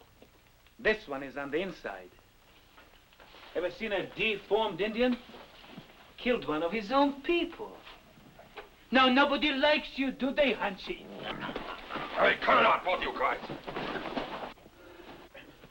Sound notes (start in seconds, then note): 11.0 Jumper chokes